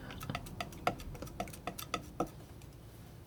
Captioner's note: scratching